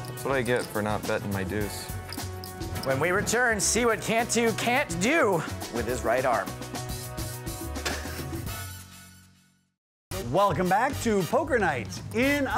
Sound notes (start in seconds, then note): 0.0 lounge music; 7.8 chuckling